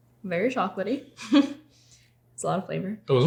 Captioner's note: laughs